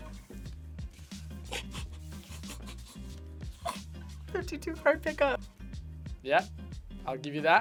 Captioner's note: laughs